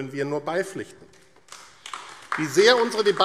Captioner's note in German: Beifall AfD